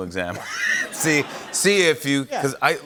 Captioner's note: laughter